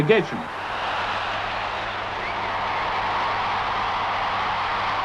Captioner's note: crowd cheering